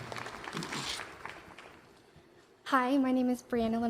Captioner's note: applause